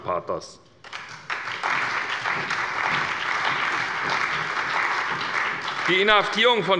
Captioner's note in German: Beifall bei der SPD, der CDU, dem BÜNDNIS 90/DIE GRÜNEN und der FDP